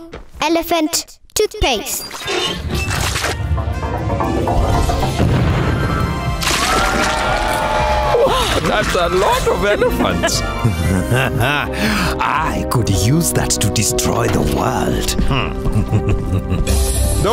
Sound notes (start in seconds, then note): 1.9 squeaking; 5.3 explosion; 6.4 crowd exclaiming excitedly; 8.1 gasping; 8.2 laughing; 11.0 chuckling; 15.2 chuckling evilly